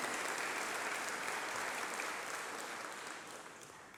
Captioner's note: applause